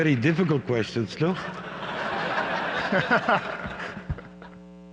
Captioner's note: laughter